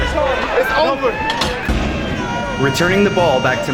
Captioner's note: crowd